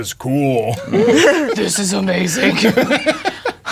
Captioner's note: deep voice; players laughing